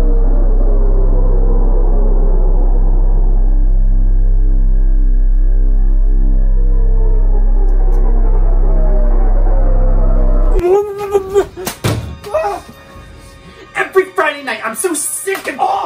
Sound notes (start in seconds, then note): 10.7 moaning and shrieking; 15.6 shouting